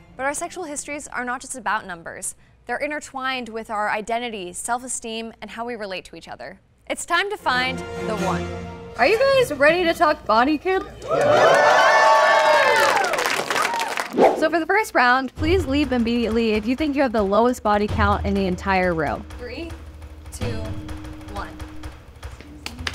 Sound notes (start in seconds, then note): 10.8 crowd clapping; 10.8 crowd cheering; 21.0 suspenseful music